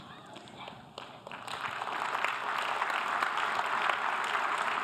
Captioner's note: audience applause